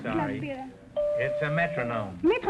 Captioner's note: chime ringing